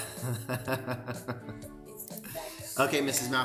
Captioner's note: laughter